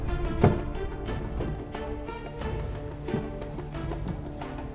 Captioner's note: car door opening